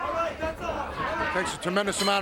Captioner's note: wrestler bellowing